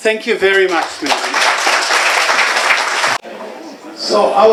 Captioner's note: applause